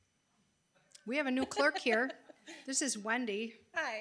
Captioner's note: chuckling